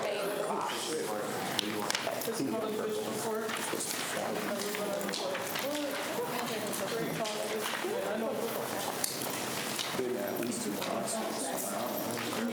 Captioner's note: students chatter